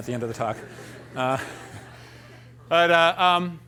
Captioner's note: laughter